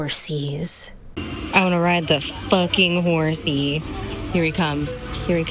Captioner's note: hoots